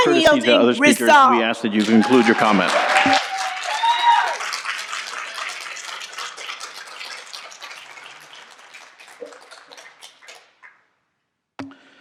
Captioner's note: cheering and Applause